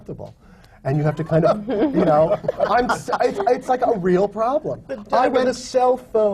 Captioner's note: laughter